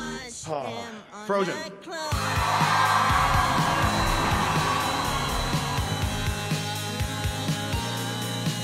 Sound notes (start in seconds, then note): 2.1 crowd cheering